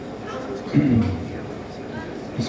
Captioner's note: clears throat